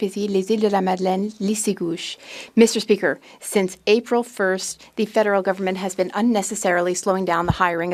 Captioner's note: speaking French